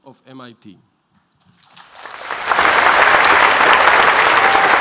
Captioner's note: applause